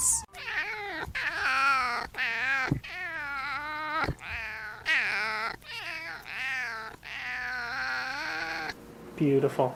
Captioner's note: raspy meowing